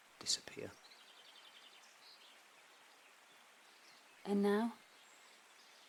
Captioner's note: birds continue chirping